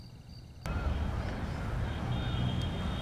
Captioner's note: Vehicles on road